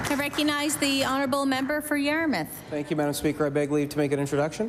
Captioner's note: applause